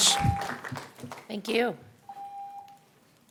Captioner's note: applause